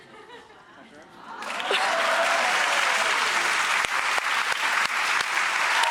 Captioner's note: cheering, applause